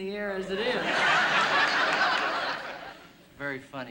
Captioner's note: laughter